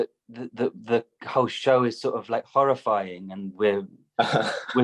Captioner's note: laughter